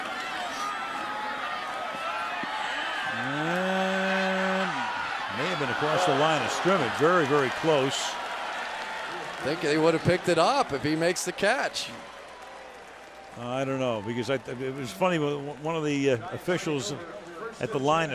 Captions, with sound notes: And may have been across the line of scrimmage. Very, very close. [cheering] I think they would have picked it up if he makes the catch. I don't know because-- it was funny, one of the officials